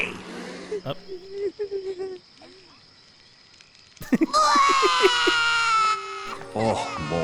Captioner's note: scared children sounds